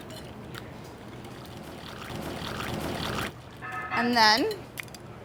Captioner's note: splashing